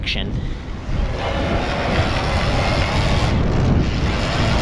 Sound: whirring

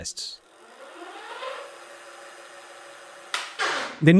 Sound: motor Sound

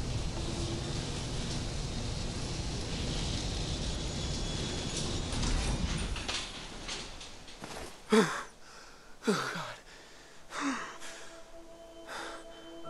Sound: breathing

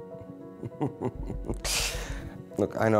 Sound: laughs

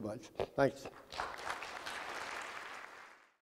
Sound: applauding

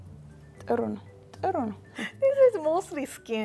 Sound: speaking Amharic

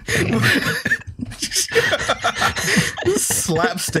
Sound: laughter

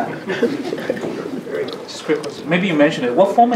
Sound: chuckles

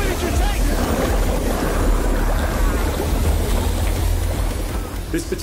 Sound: water bubbling; fire sizzling

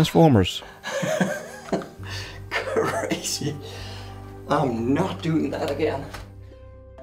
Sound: relieved laughter

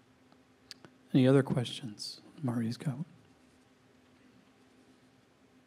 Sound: faintly speaking

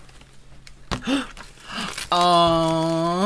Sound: gasps

